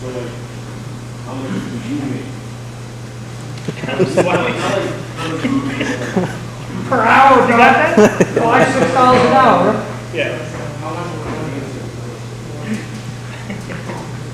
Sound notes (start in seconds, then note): 3.6 men laughing